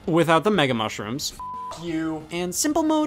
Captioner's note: beep